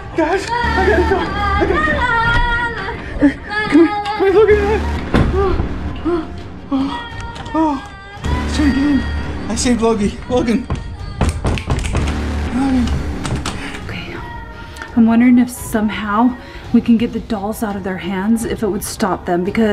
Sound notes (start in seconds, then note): 5.0 door shuts; 9.9 door slamming